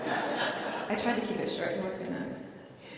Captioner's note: laughs